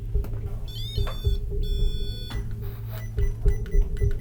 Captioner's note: device beeping